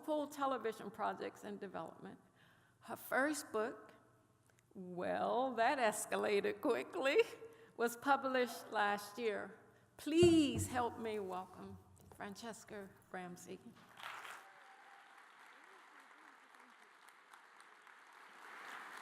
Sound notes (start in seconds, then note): 13.8 applause